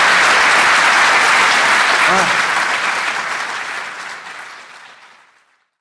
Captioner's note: applause